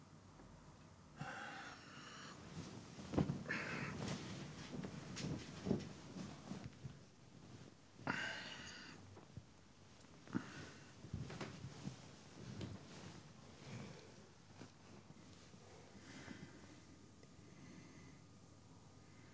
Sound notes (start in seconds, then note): 1.2 sighs; 8.4 groans